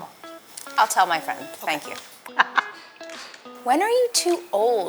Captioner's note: laughs